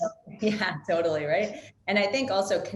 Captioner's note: chuckles